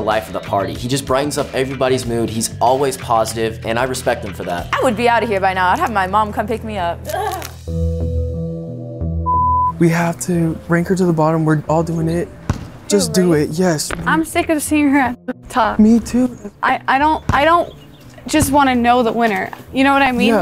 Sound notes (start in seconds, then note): 8.0 laughing; 9.8 relaxing guitar music; 12.4 ball bouncing